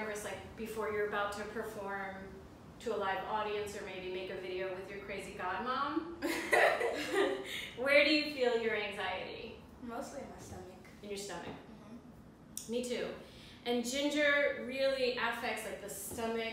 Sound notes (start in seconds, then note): 6.2 laughter